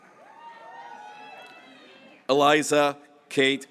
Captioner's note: graduates cheering